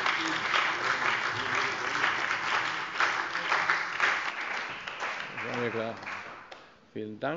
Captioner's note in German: Beifall bei der CDU und dem BÜNDNIS 90/DIE GRÜNEN